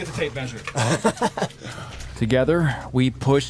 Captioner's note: laughs